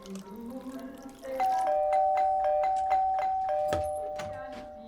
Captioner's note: fake blood sloshing; doorbell ringing